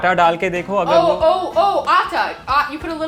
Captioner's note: speaking in Hindi; repeating Hindi